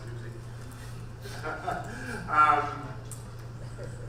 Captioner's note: laughing